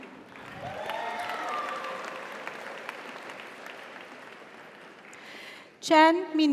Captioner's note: audience applauds; audience cheers